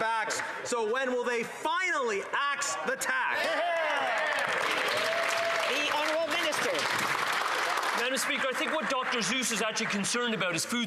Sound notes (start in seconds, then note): 7.6 some Applause